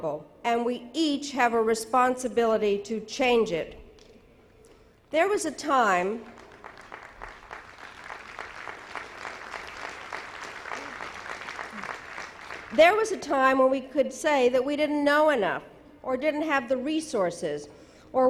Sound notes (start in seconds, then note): 6.2 audience applauding